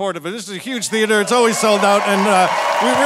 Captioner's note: audience cheering